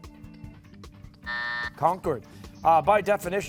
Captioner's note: buzzer